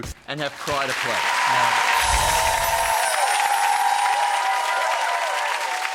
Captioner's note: cheering; clapping